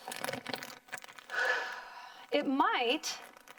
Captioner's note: deep breathing